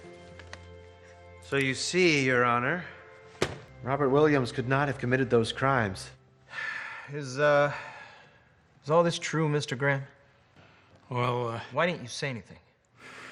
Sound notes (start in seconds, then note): 6.5 sighs